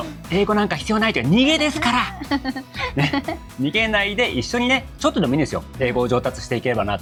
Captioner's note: laughs